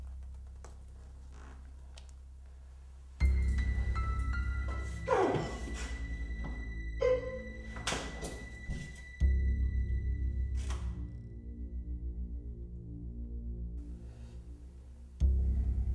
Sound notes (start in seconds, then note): 5.0 crying out